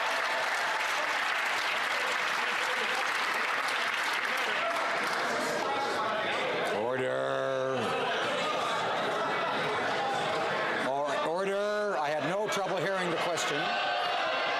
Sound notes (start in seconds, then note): 0.0 some Applause